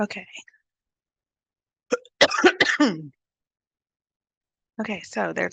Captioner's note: coughs